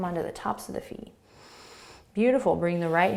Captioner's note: inhaling